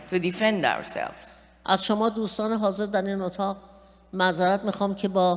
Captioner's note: speaking persian